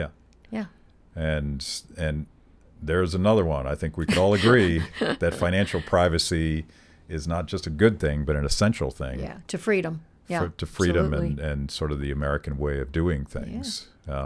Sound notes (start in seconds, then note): 4.0 chuckling